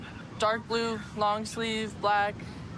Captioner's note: none